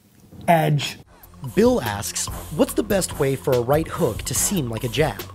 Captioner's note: voiceover